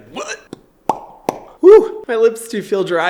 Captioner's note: popping lips